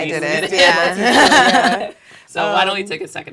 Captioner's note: laugh